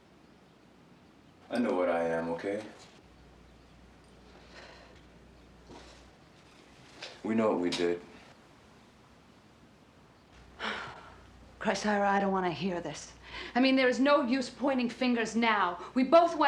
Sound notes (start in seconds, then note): 10.6 Carolyn sighs